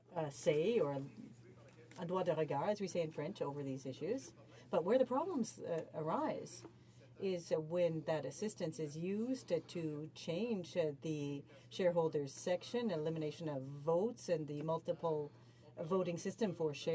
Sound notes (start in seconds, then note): 6.1 speaking french